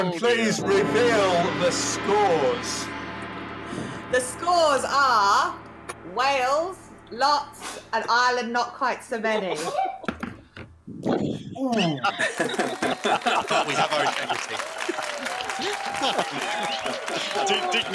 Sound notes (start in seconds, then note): 11.2 laughing; 15.0 applause